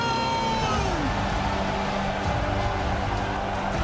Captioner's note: crowd cheering